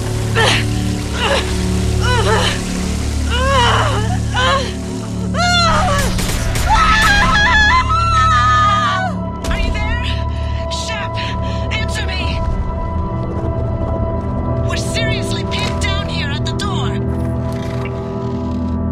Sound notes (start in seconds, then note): 7.6 death Scream